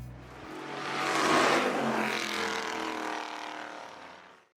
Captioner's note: trail of engine roar